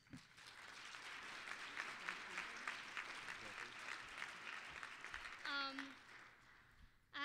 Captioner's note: applause